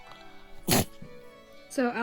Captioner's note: Alcie sneezes